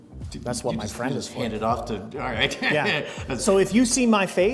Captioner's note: laughs